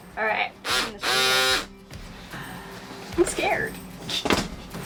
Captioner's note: cutter buzzing